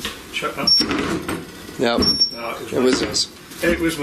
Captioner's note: beeping